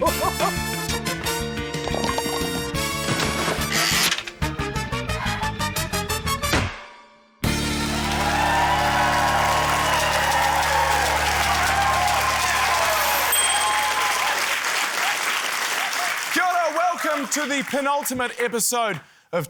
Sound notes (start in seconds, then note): 1.9 pins clatter; 3.1 splash!; 3.8 wheel clicks; 5.2 exhales; 6.5 clunk!; 13.2 ding!; 15.3 cheering, applause